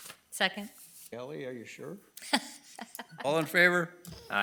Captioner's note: laughing